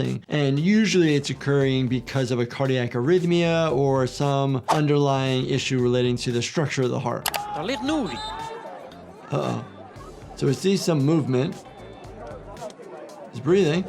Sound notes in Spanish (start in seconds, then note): 7.5 comentarista hablando idioma extranjero